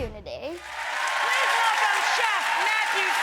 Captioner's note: audience clapping and screaming